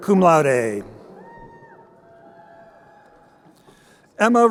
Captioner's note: crowd cheering